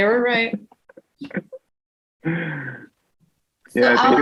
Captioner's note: laughs